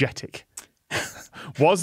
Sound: snickers

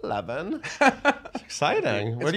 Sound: laughing

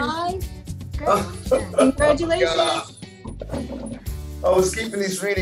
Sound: laughter

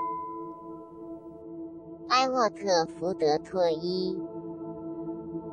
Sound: bell; non-english speech

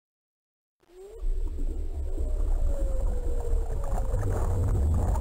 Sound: mysterious creature sounds coming from an x86 computer

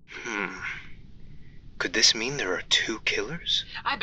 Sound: quietly

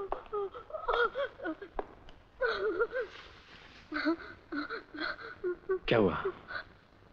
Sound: sobbing

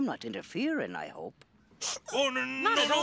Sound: sniffs

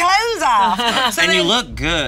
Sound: laughing

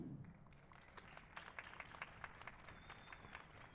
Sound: applause

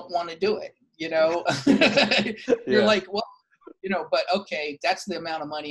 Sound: laughs

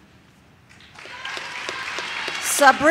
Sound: audience claps

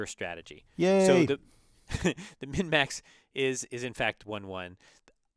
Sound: laugh

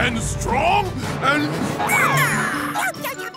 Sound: squeaking

